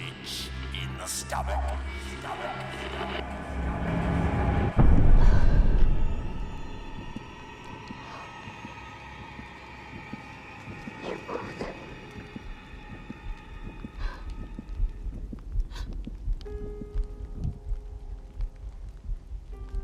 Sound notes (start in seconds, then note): 9.5 heart beating; 16.3 gentle piano music